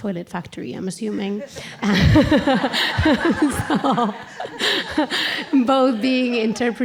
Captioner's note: laughter